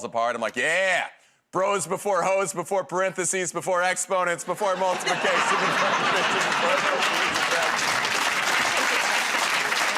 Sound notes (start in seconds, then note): 8.9 laughter and applause